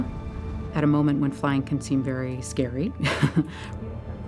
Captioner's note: laughs